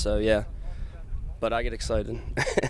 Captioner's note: laughs